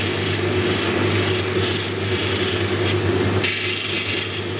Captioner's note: stone grinding